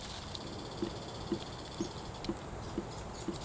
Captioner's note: steady dripping